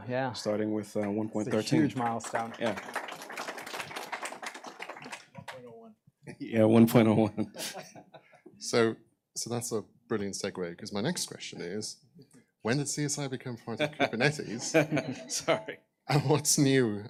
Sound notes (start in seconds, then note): 3.9 applause; 7.2 laughter